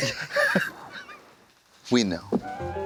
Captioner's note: blonde Women giggle